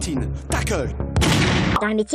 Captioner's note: bang !!